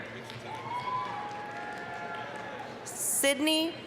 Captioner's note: applause, cheering